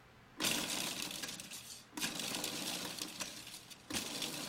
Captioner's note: blender whirring